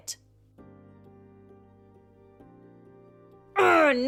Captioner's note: stays quiet